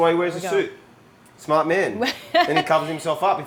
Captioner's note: chuckles